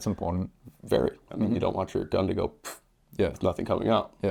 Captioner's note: pff